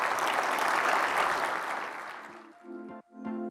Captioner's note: applause